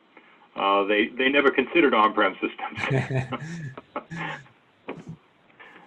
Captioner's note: laughs